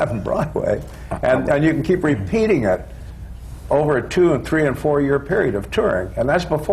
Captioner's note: laughs